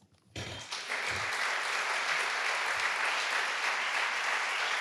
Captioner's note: audience applauding